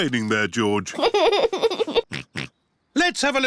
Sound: giggles and oinks

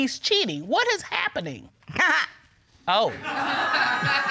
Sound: audience laughing; laughs

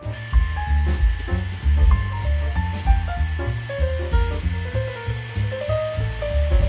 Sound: blow dryer whines; gentle music

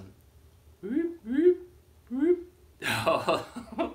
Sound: making wooping noises; giggles

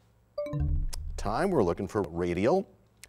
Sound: bell chimes, time expires

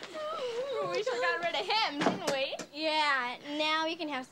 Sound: laughs

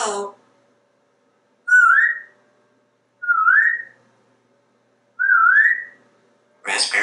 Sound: whistling

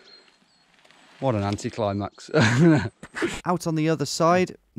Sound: laughs

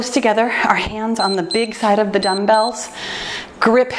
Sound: timer beeps

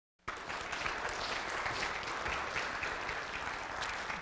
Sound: audience applauding

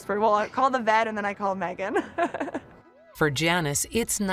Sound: laughing

